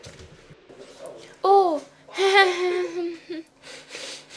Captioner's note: laughs nervously